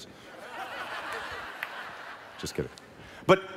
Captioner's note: laughing